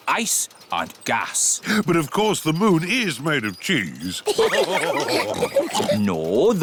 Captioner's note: all laugh